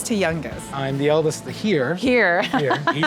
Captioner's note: laughs